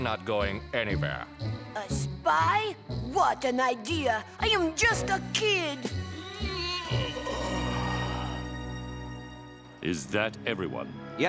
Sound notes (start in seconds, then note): 7.0 yawns